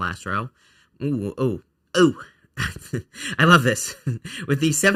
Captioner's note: laughs